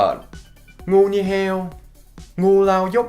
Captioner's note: northern accent; southern accent